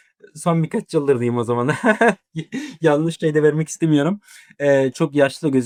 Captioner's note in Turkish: kahkaha